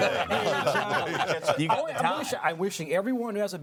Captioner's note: all laughing